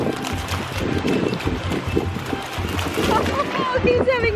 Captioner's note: water splashing